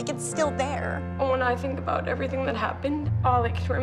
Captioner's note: tearfully